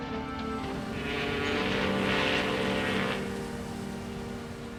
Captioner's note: horn bellows